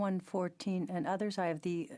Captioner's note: speaking French